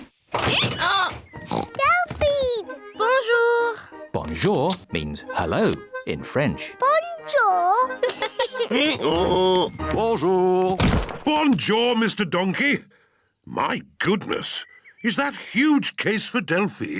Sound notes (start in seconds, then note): 0.8 brays; 1.4 oinks; 7.9 both giggle; 8.6 brays